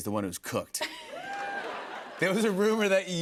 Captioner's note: laughter